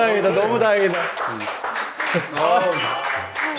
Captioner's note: applause